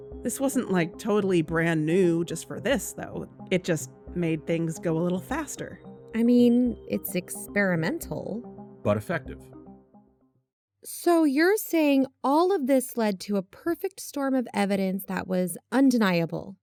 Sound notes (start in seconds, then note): 9.8 music stops